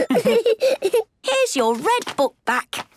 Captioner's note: laughs